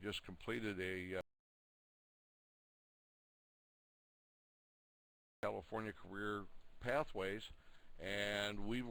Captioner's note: audio drops